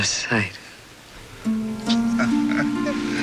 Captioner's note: chuckling